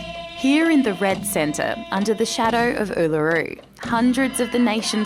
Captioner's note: chanting